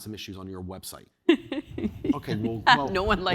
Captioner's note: laughter